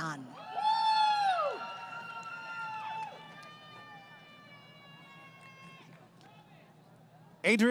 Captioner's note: crowd Cheering